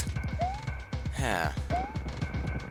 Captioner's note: sigh